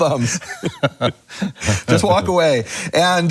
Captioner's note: laughing